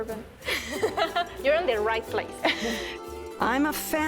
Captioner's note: laughs